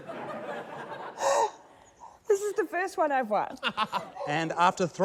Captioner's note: gasps; laughter